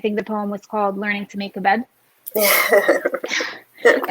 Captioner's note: laughs